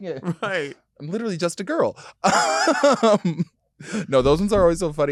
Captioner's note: laughing